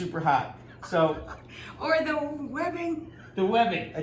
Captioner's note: laughs